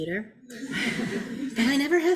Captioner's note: audience laughing